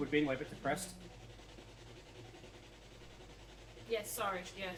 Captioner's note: electronic whirring